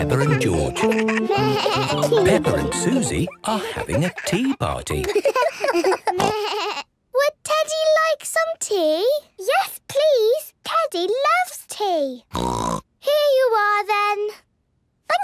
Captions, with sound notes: with Peppa and George. Peppa and Suzy are having a tea party. (giggles, snorts) - Would Teddy like some tea? - Yes, please! Teddy loves tea. (snort) - Here you are then!